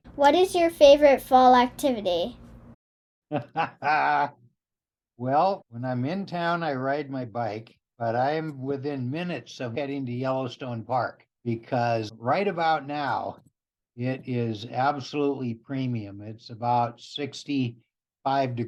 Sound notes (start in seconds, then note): 3.3 laughing